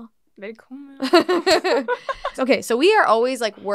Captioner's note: laughs